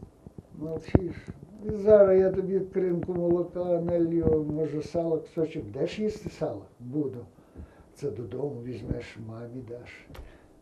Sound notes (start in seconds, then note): 1.6 ukrainian